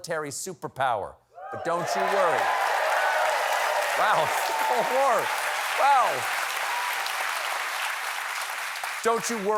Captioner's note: cheers and applause